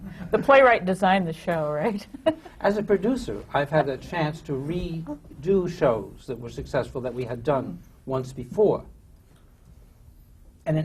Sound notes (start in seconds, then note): 0.0 laughter; 2.2 laughs